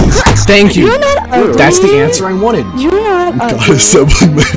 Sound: laughs

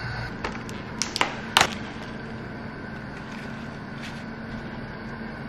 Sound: plastic crackling

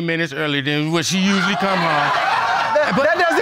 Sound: audience laughing

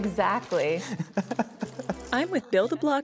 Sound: laughs

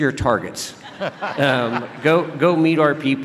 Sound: laughing

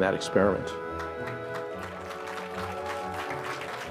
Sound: applause

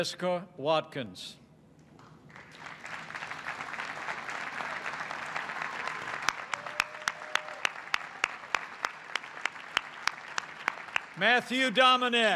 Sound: applause

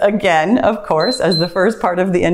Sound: timer beeps

